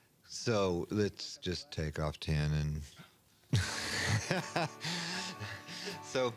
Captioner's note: laughs